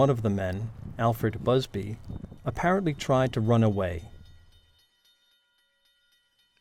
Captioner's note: sound of train